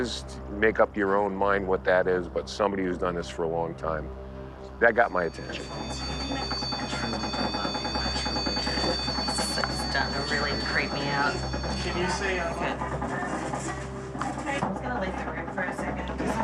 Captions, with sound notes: make up your own mind what that is. But somebody who's done this for a long time, that got my attention. [device trilling] This is starting to really creep me out. I'm just going to leave the room for a second.